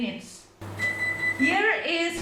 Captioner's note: beep beep .... it's the sound of the oven